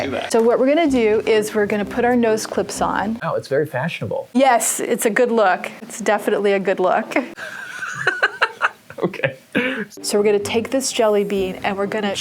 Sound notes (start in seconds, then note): 7.3 laughter